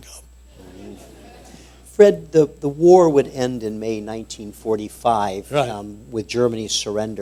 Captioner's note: laughter